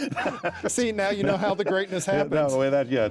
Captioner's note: chuckling